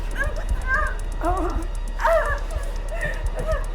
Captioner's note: Tina whimpering; Sue groans; Tina gasping